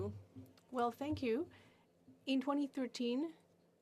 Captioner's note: speaking French